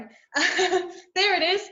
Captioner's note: laughs